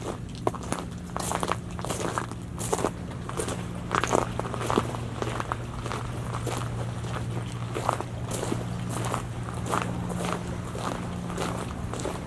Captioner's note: footsteps on shell